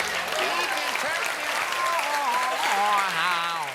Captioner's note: applause